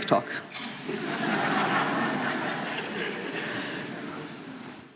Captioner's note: laughter